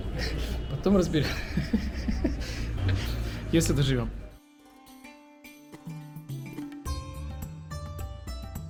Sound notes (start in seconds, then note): 1.2 giggle